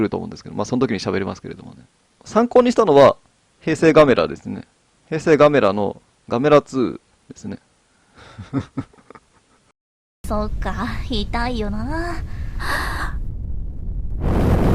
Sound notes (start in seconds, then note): 8.2 laughs